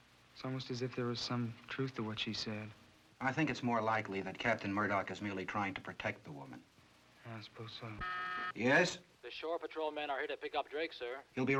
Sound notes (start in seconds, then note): 7.9 intercom buzzes